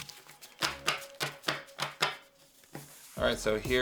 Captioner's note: papers tapping